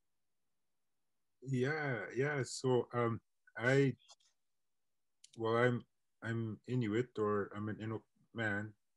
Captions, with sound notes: - So I'm in Inuit or (internet distortion)